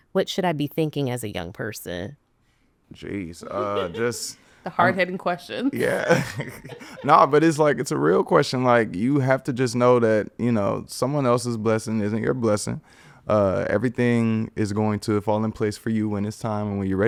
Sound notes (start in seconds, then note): 3.4 podcaster laughing; 5.7 laughs